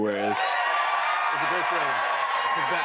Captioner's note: cheers and applause